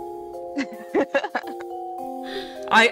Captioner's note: giggles louder